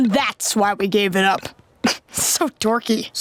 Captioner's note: scoffs